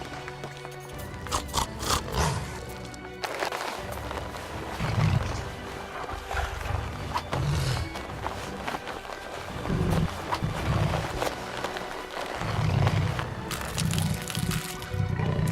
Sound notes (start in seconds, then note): 1.2 snorts; 3.3 shoe rustling; 6.0 growls; 11.5 shoe chewing and crunching